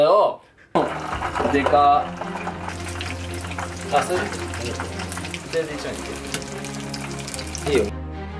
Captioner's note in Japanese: ロブスターを揚げる音